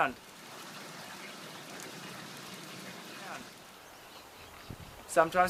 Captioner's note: water running down a gutter